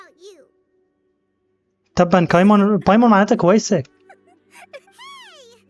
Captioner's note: laughing